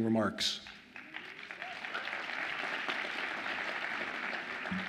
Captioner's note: audience applauds